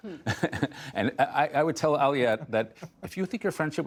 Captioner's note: laughter